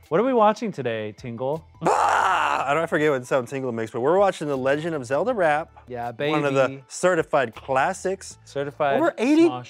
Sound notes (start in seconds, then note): 1.8 screams